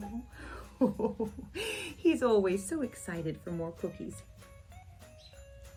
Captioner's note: ho-ho-ho chuckles